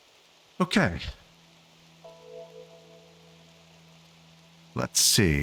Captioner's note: silence